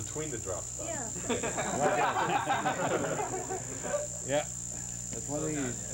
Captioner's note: laughter